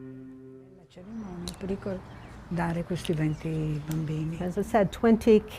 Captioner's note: speaking in foreign language